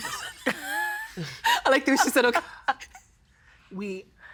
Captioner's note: laughing